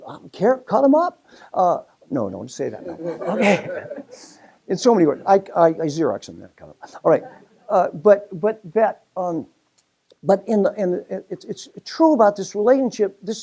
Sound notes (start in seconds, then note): 2.7 laugh